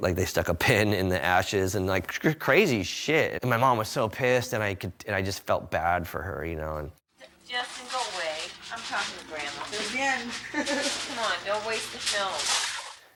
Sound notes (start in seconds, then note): 10.1 laughs